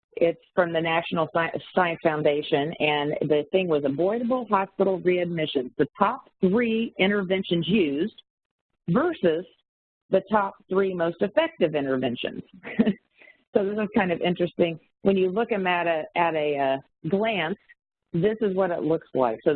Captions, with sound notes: it's from the National Science Foundation and the thing was Avoidable Hospital Readmissions, the top three interventions used versus the top three most effective interventions. (chuckles) This is kind of interesting. When you look at a glance, this is what it looks like.